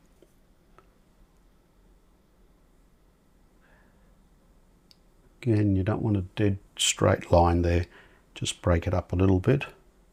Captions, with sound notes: [silence] Again, you don't want a dead straight line there. Just break it up a little bit.